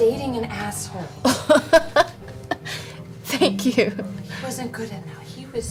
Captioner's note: laughs